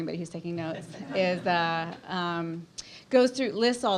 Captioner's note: audience laughs